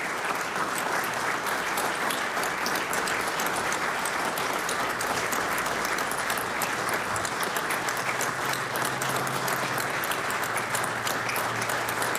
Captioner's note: applause